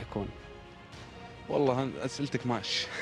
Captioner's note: laugh